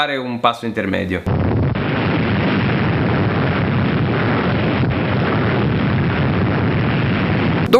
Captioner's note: explosion